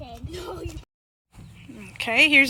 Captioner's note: laughs